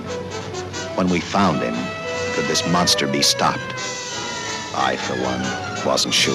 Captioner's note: siren wails